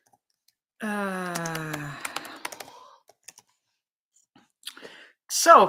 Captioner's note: keyboard clacking